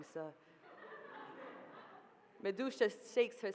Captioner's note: audience laughing